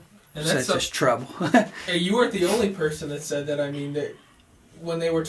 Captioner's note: laughs to self